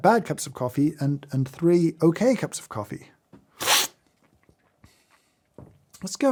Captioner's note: slurps